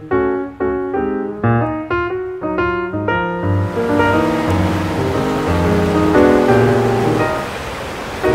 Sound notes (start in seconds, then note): 3.4 river babbling